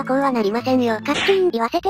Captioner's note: snap...!